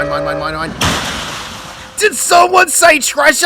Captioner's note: crash